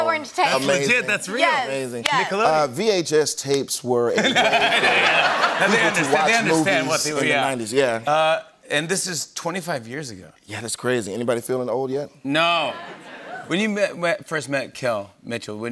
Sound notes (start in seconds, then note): 4.1 laughter